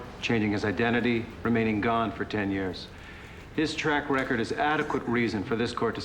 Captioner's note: none